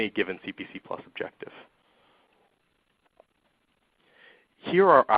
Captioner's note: silence